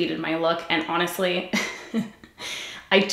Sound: giggles

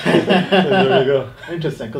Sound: laughing

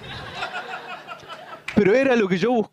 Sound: laughter

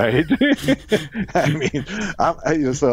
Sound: both laughs

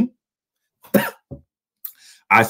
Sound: coughs

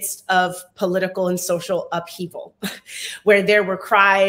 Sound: chuckles

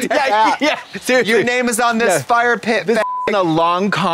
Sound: beep

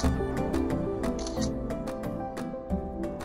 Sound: camera shutter

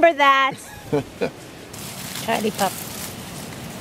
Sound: chuckles

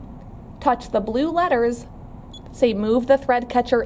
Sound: beeping noise

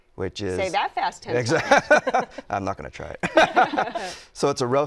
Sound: laughter

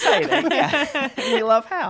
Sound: laughing

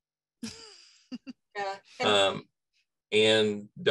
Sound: laugh

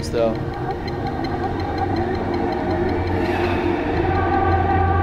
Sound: distant chanting

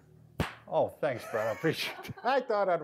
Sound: laughing in background; laughs

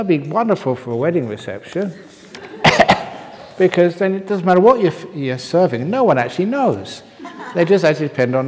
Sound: laughter

